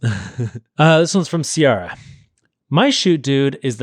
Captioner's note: laughing